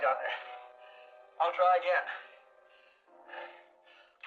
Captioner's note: panting